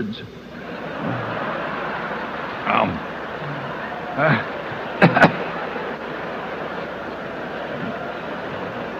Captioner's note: laughter